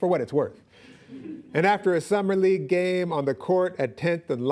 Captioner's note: laughing